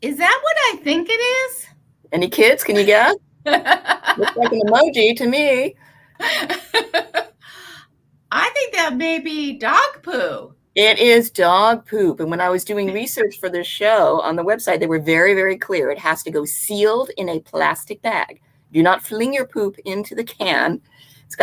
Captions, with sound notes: - Is that what I think it is? - Any kids, can you guess? (laughing) It looks like an emoji to me. (laughing) - I think that may be dog poo. - It is dog poop, and when I was doing research for this show on the website, they were very, very clear. It has to go sealed in a plastic bag. Do not fling your poop into the can.